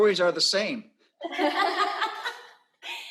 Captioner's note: laughter